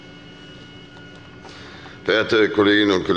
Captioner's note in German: none